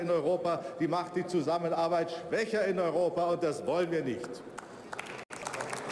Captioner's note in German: Beifall bei der CDU/CSU